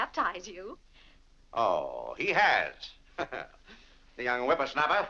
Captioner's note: laughs